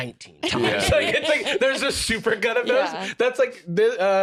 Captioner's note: laughs